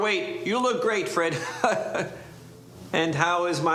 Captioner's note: chuckles